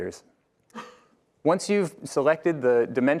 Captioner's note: group member coughs